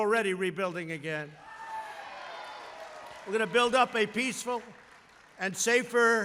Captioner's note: applause